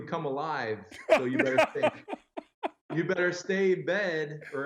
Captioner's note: laughing